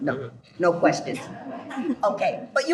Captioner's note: group laughs